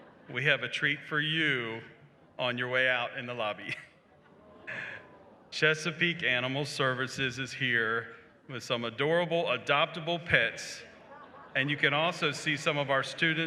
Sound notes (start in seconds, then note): 0.0 laughter; 4.1 crowd awwwws